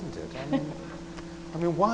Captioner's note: laughs